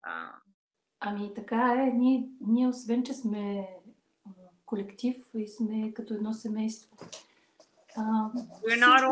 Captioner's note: foreign Language followed by English Interpreter